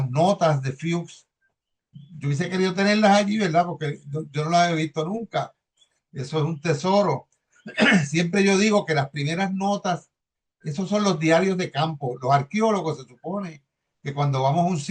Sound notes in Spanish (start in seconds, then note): 7.6 carraspeo